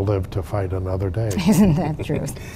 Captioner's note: laughing